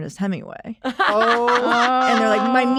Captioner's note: laughter